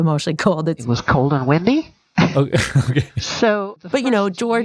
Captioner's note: laughs